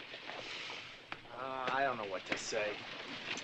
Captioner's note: sighing